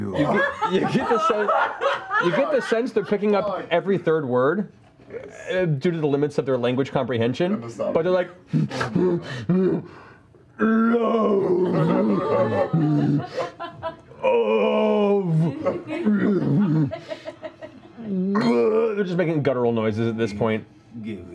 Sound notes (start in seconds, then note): 10.6 grunting; 13.3 sobbing